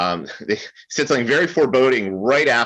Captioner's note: laughs